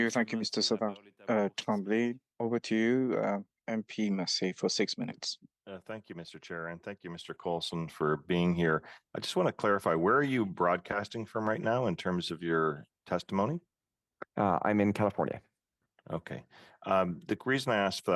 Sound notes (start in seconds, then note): 7.6 speaking French